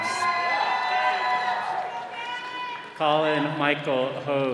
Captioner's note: all cheering